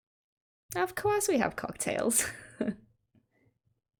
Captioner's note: laughs